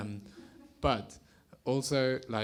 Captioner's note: attendees chuckle